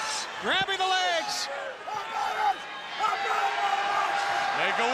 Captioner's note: crowd chatter